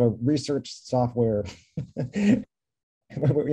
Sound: laughter

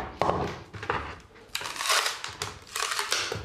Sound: wood crunching

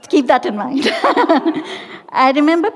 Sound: laughing

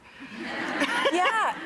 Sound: audience laughs

